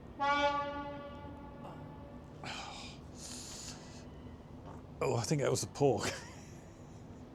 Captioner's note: horn sound